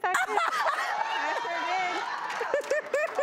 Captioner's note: audience shock and laughter